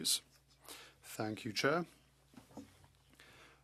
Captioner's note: speaking French